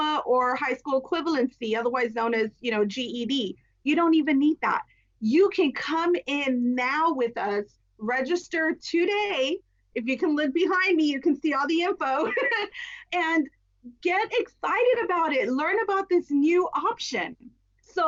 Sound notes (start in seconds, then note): 12.2 laughs